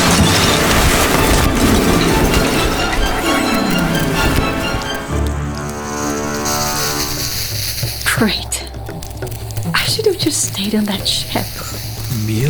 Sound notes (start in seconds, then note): 0.0 glass shatters; 5.5 lava sizzles